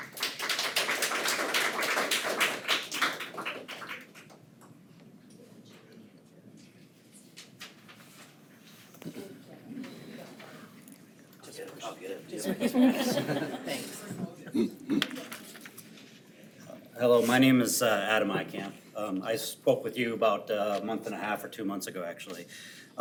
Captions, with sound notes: (attendees applaud) (unmiced voices talking) - I'll get it. I'll get it. (attendees chuckle) Thanks. (unmiced voice talking) Hello. My name is Adam Eikamp. I spoke with you about a month and a half or two months ago actually.